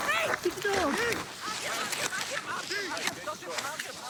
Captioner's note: none